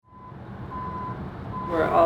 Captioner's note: truck reverse alarm beeping